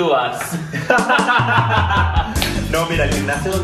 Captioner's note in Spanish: risas